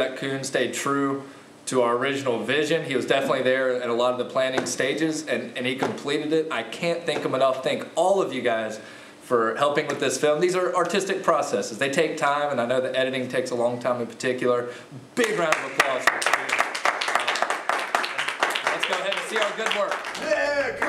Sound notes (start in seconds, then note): 16.8 clapping